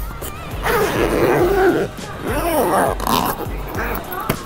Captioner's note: zipper closing